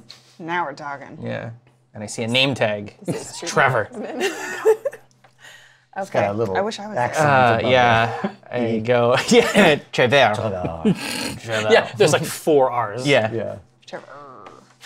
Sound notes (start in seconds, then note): 3.8 laughs; 9.3 French accent; 10.3 laughs; 10.5 French accent